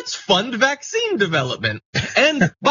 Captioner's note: laugh